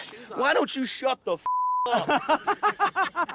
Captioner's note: beep